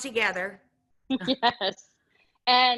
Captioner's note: chuckling